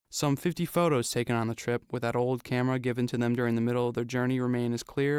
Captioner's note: none